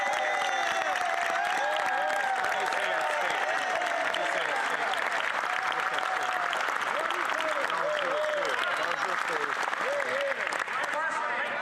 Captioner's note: cheers & Applause